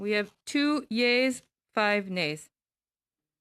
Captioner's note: speaking French